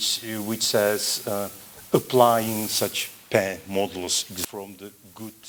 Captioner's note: non-english